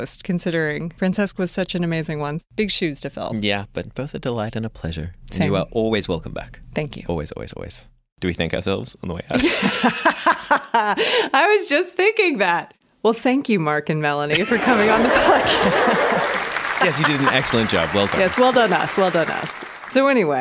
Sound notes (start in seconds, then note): 9.3 laughter; 14.5 recorded applause